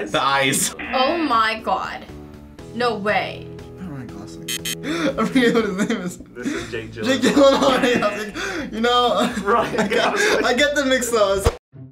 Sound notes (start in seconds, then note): 4.5 buzzer